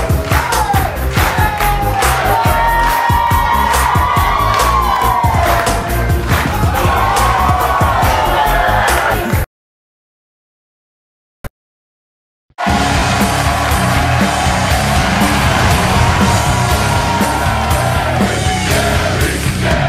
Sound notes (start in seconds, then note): 2.6 audience cheering